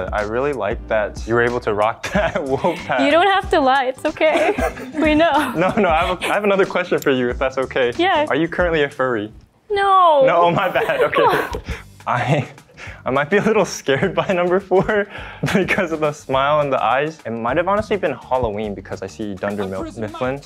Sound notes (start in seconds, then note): 4.2 laugh; 10.2 laughing